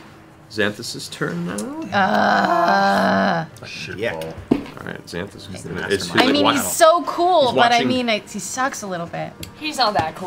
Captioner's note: groaning